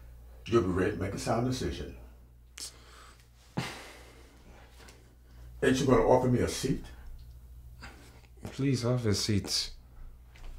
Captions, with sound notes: You'll be ready to make a sound decision (Efosa sighs) Ain't you gonna offer me a seat? Please have a seat.